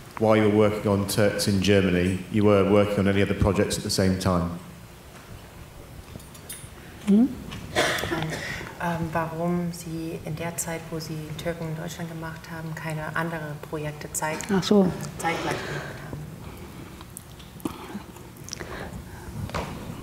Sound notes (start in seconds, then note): 8.3 speaks German